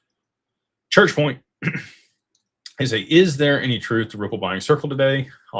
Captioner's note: clears throat